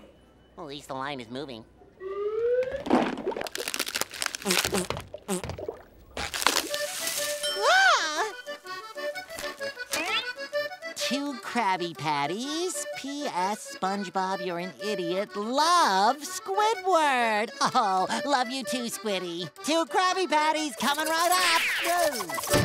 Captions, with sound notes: At least the line is moving. [cracking] Oh, love you too, Squiddy. Two Krabby Patties coming right up! Doh.